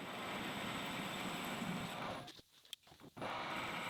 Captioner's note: lathe whirring